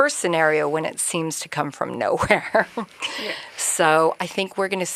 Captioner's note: chuckles